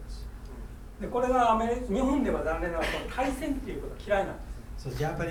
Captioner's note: speaking in foreign language